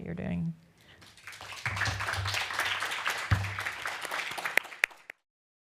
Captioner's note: applause